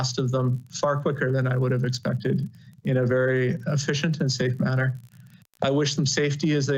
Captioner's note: audio interruption